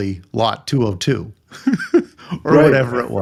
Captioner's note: laughing